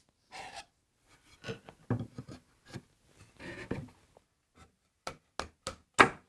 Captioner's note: chisel scraping; wood banging and scraping